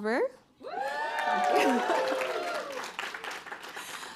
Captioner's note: applause